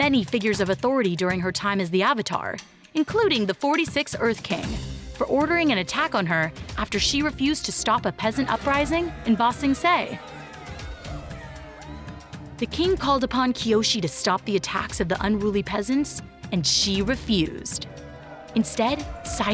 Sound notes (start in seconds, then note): 9.3 distant chattering